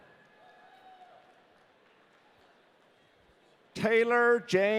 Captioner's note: audience cheering